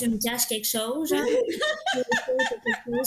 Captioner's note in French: Rires